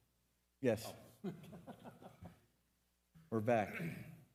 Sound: laughing

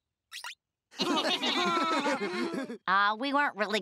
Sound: laughing

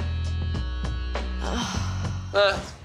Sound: impatient sigh

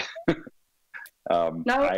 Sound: laughs

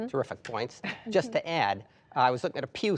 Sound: laughter

